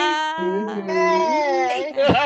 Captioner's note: laughter